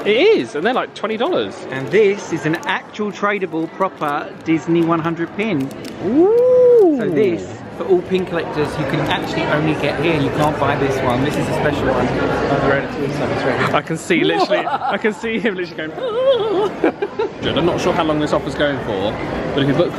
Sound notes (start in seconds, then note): 14.4 laughs maniacally